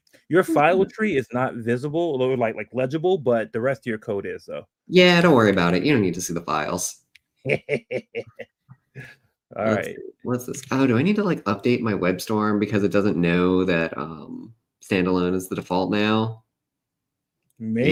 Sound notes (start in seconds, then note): 7.4 snickers